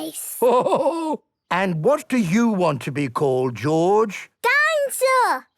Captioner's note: laughing